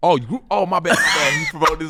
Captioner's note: laughing